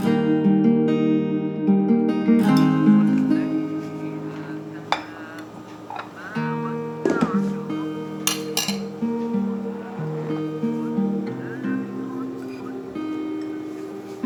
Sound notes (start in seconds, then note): 3.2 Recitation of Quran in the background